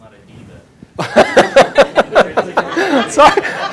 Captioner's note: laughter